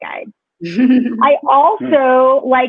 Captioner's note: laughs